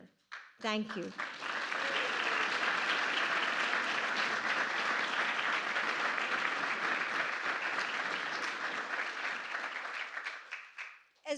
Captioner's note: applause